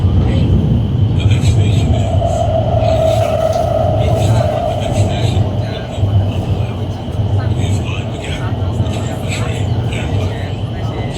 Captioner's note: Regular English announcement, no special announcement